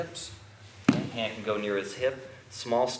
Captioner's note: soft thudding